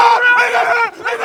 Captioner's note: screaming